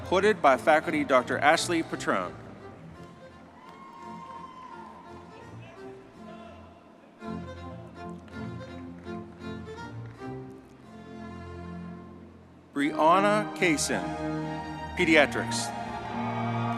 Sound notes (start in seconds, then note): 3.4 triumphant music; 3.5 audience cheering